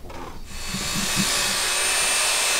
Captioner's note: electrical whirring